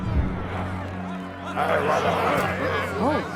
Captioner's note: grumbling